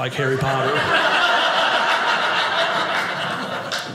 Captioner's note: audience laughing